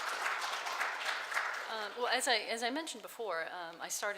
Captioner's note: clapping